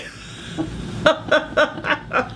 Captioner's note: laughing